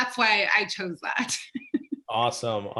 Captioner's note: laughing